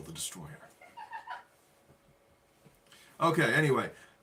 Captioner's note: laughing